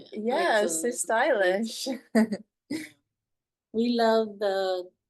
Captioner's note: chuckles